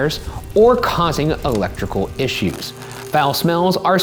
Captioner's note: match strikes; electricity buzzing